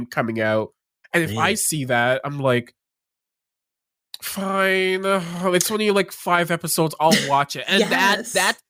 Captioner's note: sighs